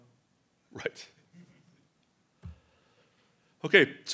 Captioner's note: chuckles